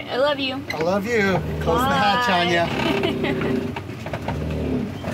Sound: laughs

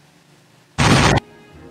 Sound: boom

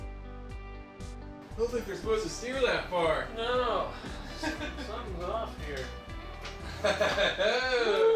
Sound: laughs

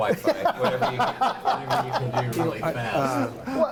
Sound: laughing

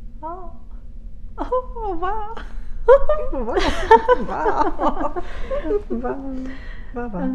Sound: laughs

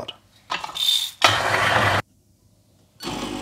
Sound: machine grinds; coffee machine hums

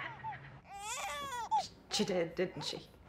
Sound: baby crying

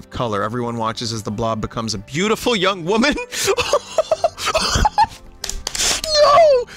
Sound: voices raises; laughs; rapidly mashes keys

